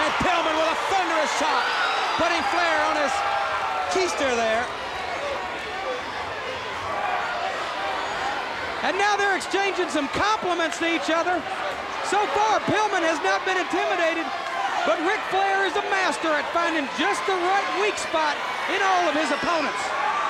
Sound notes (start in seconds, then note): 6.1 crowd clamoring